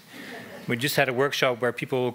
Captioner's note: laughing